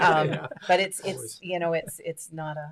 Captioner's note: laughs